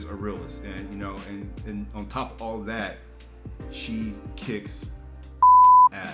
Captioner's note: beeps